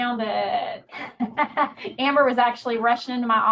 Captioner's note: laughing